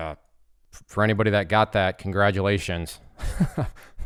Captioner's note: laughs